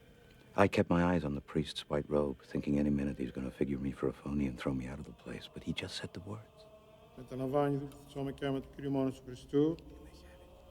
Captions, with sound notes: I kept my eyes on the priest's white robe, thinking any minute he would figure me for a phony and throw me out, but he just said the words. (reciting)